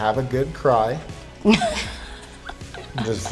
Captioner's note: laughs